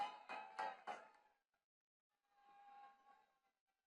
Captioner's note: attendees clapping